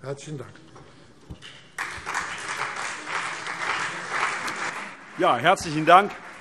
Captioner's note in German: Beifall CDU und BÜNDNIS 90/DIE GRÜNEN